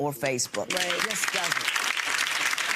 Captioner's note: audience applauds